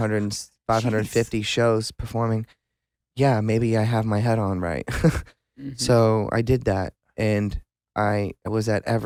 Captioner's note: laughs